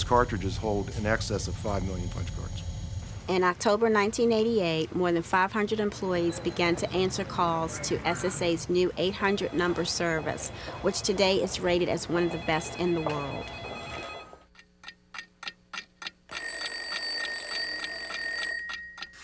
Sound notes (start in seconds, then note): 16.3 alarm clock ringing; 16.3 alarm clock ticking